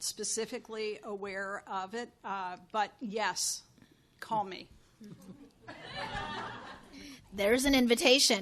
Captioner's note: chuckles